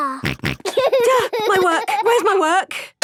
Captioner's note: snorts; giggling